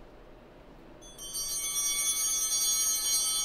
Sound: bell ringing

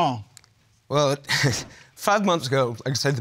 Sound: chuckles

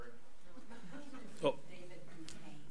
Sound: audience laughs

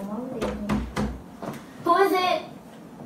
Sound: knocking at door

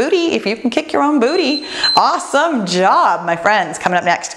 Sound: timer beeps

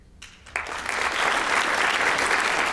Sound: applause

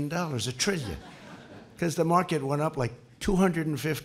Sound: laughter

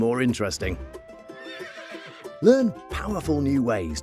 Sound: horse neighing

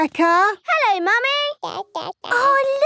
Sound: babbling

